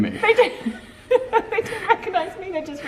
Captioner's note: laughs